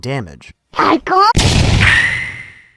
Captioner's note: explosion